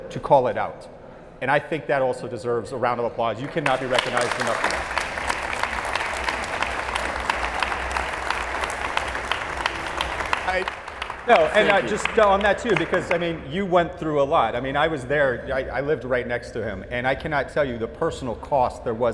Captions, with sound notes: he showed character and courage to call it out. And I think that also deserves a round of applause. You cannot be recognized enough. (audience applauding) No, and I just, on that too, because I mean, you went through a lot. I mean, I was there, I lived right next to him.